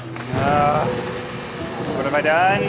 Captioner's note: thunder cracking